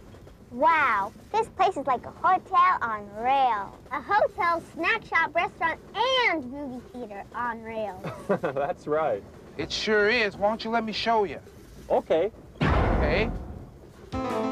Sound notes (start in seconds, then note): 12.6 loud short bang; 14.1 fast-paced music